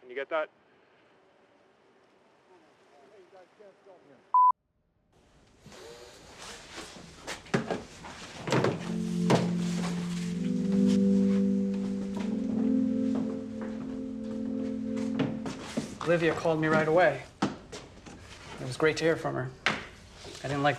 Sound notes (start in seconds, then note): 5.7 footsteps; 10.7 emotional music